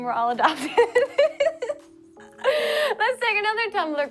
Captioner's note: laughs